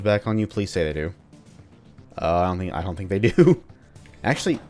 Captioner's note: chuckles